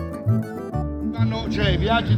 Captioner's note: speaking in Italian